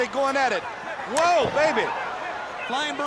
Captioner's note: straps thudding